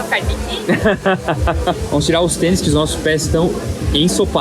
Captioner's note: laughter